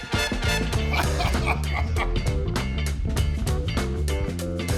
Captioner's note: laughs